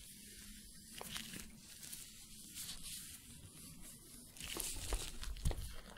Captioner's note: glove sounds, stroking bristles